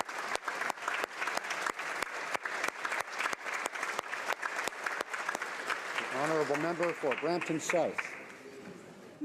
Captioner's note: applause